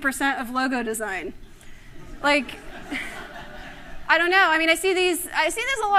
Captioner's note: laughter